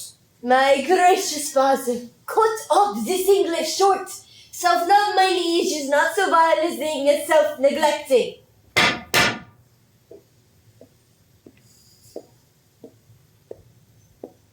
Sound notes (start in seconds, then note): 8.7 sticks pound twice on ground